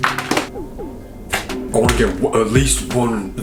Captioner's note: snaps